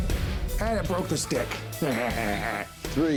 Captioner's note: laughs